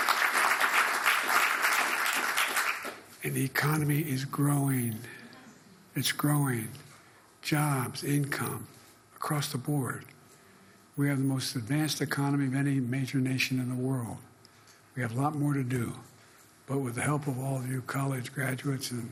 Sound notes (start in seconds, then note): 3.5 applause